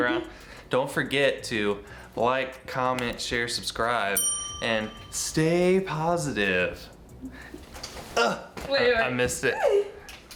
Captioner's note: grunt